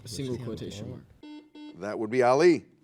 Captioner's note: buzzer